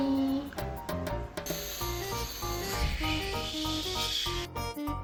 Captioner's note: sound of a flying rocket